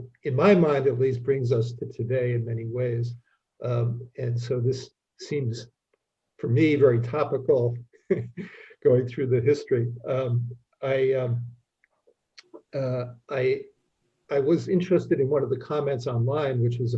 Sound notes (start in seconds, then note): 8.0 laughs